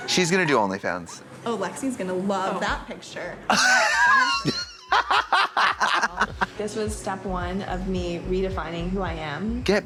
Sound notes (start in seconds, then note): 3.5 blonde Women snicker